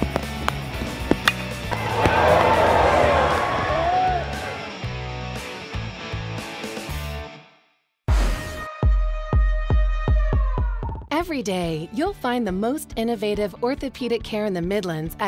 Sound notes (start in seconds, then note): 1.2 baseball bat clinking; 1.6 crowd cheering; 5.8 upbeat music